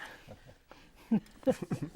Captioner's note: laughing